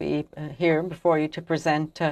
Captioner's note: speaking French